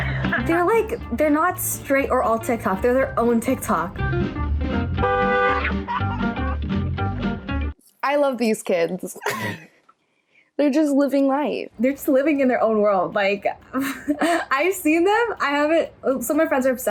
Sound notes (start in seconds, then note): 4.9 car honks; 5.6 teen screams and laughs; 9.2 chuckles; 13.7 chuckles